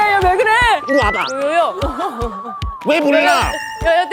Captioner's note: swoop